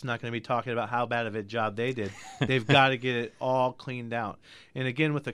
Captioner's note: laughs